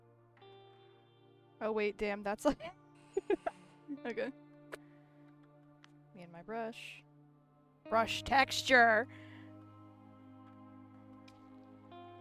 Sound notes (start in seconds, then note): 3.2 laughs